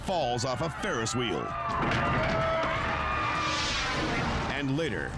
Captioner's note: onlookers scream